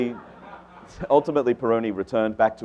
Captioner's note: audience laughs